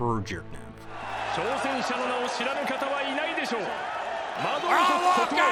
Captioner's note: arena announcing in Japanese